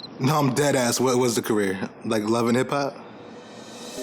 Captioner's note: crickets chirping